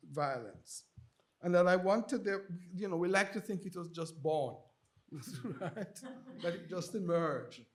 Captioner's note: chuckles